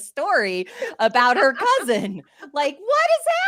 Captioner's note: laughs